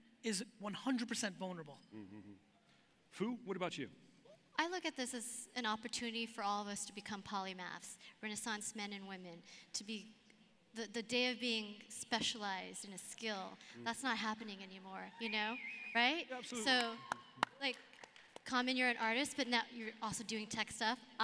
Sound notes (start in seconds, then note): 16.4 audience members cheer